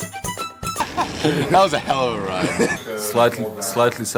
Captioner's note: laugh